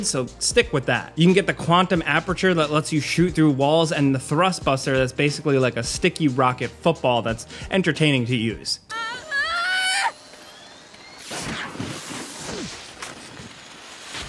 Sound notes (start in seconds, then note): 8.8 character screams